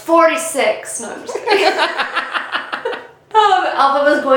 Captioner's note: both laughing